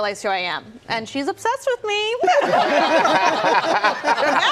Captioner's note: laughter